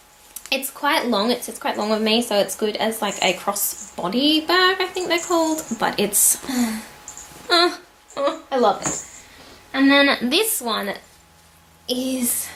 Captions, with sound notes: It's quite long. It sits quite long with me so it's good as like a cross body bag I think they're called but it's *sighs happily* I love it. And then this one is